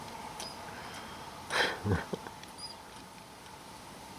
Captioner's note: laughter